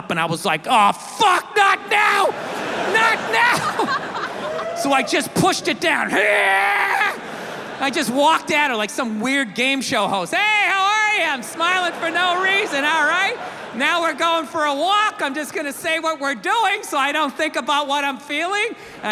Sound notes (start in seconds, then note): 1.6 audience laughs; 1.8 laughs; 5.9 yells